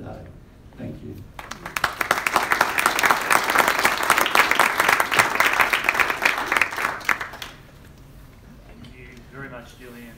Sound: applause

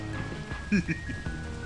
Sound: goblin laugh

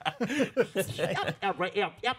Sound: laughing

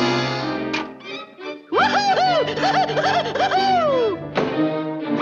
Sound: whooping

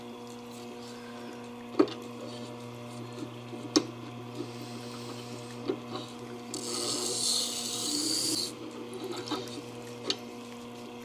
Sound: grinding & motor noise

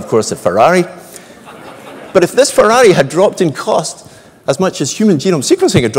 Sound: laugh

